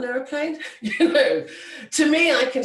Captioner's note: laughs